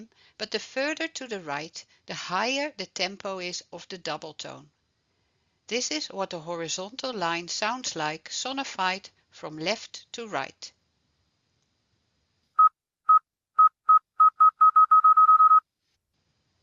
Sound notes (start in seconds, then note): 12.0 beeping